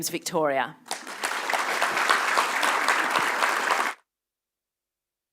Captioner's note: applause